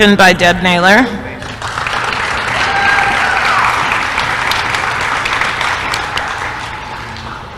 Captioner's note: applause